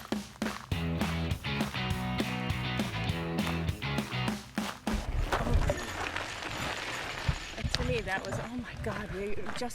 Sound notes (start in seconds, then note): 0.0 lively music; 4.4 bicycle tires crunching